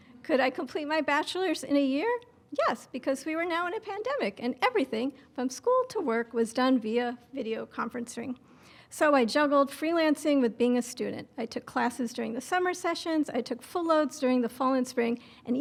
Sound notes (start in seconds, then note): none